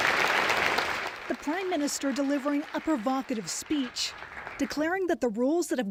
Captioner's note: applause